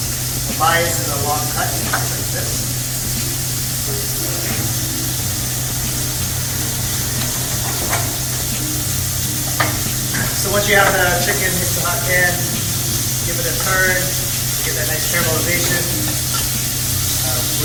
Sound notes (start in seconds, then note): 0.0 chicken sizzles; 2.8 chicken sizzles; 4.2 knife cutting on board; 15.4 tongs scrape on the pan